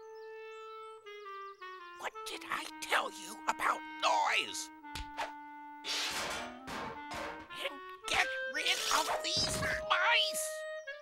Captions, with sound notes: (WHISPERING) What did I tell you about noise? And get rid of these mice!